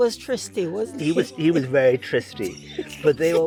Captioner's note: speaker laughs